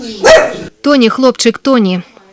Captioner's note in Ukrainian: Гавкає